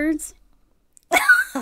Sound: laughs

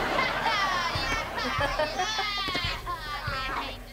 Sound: laughing

